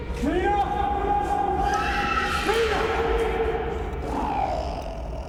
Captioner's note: dana screams